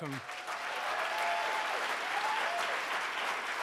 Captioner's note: applauding